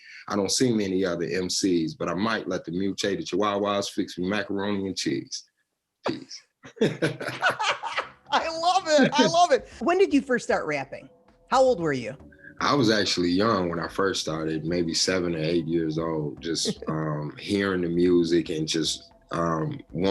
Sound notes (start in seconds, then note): 6.7 laughing